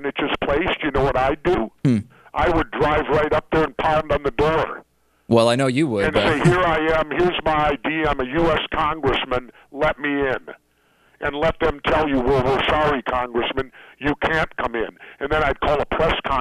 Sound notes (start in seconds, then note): 6.0 laughs